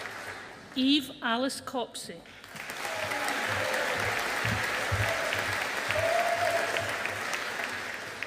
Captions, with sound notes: Eve Alice Copsey. (AUDIENCE APPLAUDING)